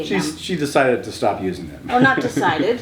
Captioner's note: laughs